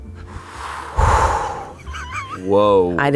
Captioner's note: exhales